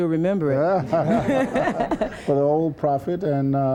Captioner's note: laughter